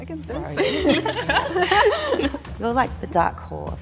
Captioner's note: all chuckles